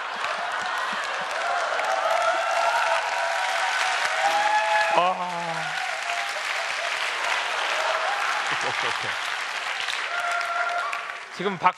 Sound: laugh; applause

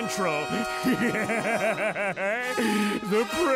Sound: laughing

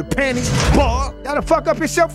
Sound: bars slamming

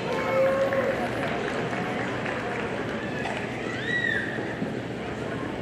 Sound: audience applauding

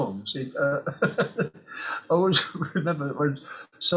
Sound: he laughs

